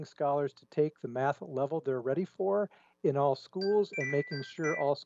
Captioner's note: chime